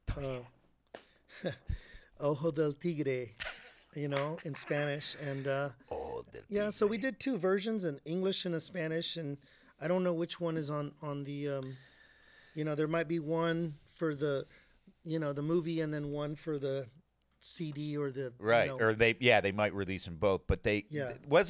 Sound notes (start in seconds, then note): 1.3 chuckling; 6.2 laughing